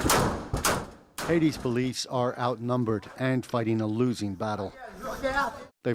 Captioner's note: gunfire